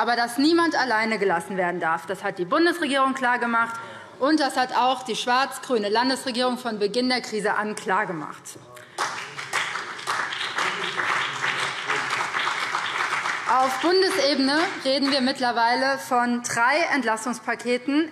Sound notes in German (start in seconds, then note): 8.8 Beifall BÜNDNIS 90/DIE GRÜNEN und vereinzelt CDU